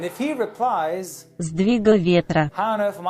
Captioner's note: Russian